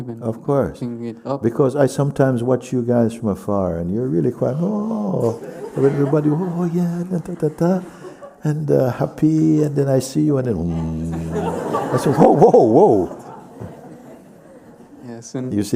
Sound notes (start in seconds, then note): 7.6 mimics joyful chatter; 10.7 laughter